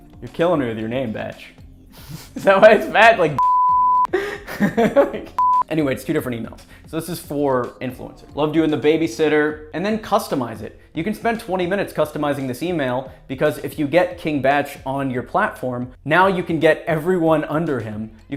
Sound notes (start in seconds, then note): 3.3 beep; 4.1 laughs